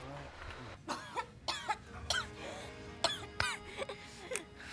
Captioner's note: coughing